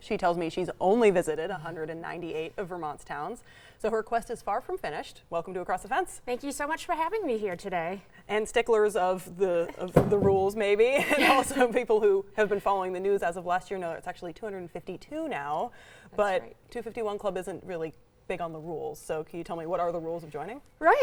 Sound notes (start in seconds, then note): 11.0 both laugh